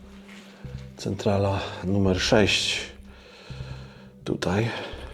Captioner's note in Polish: wciągnięcie powietrza